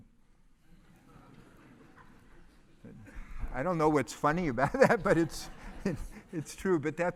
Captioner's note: laugh